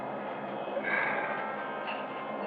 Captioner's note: sighs